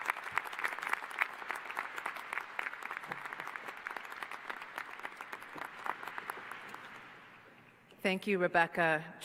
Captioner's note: applause